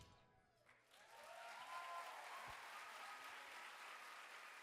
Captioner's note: audience applaud